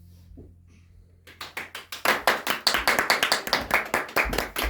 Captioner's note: audience claps